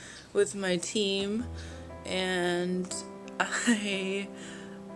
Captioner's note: laughs